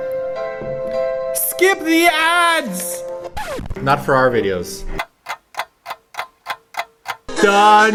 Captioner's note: scratching